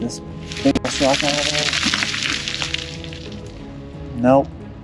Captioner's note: rocks crashing